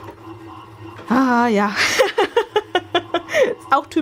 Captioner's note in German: gelächter